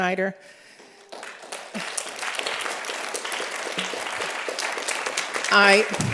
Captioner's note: applause